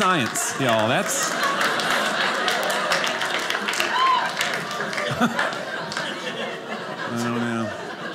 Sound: audience laughing

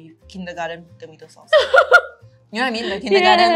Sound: laughs

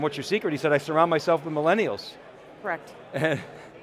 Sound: laughs

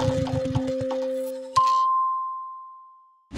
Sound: dinging

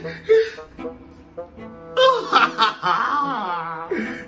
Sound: more crying

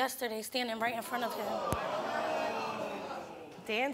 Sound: audience ohs

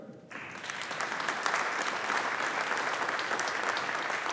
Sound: audience applauding

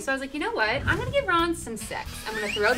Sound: whistling

